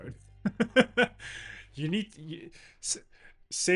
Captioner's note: laughs